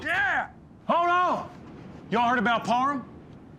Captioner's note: everyone cheers; door opens suddenly